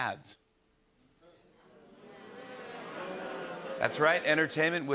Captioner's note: audience groans